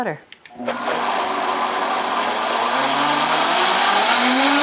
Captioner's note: blender whirs